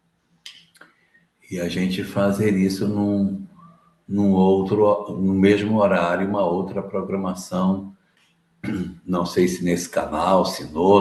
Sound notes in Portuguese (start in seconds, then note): 8.6 limpando a garganta